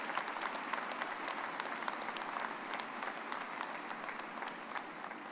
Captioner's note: all clapping